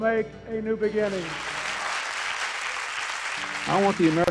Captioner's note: applause